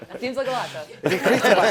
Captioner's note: laughter